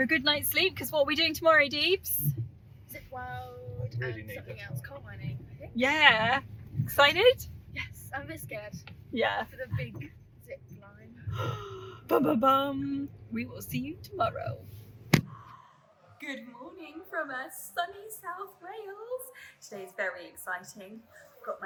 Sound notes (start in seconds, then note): 11.3 gasps